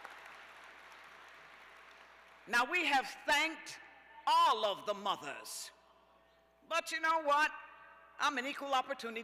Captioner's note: cheers